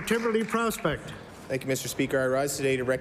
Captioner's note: applause